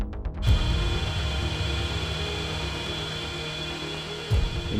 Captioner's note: machine whirring loudly